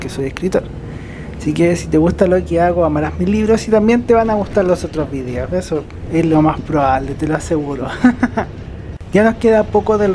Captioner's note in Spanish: risas